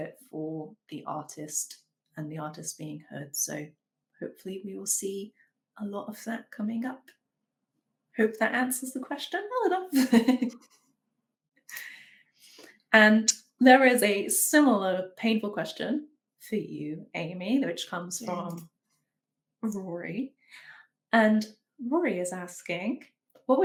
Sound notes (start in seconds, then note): 10.3 laughs